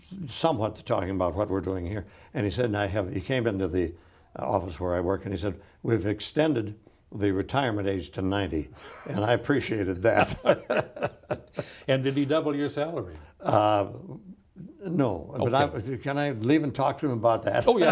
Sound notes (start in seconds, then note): 10.0 both laughing